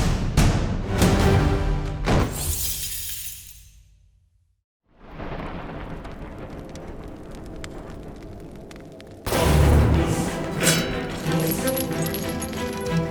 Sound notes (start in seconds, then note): 4.9 thunder rumbling; 8.7 intense music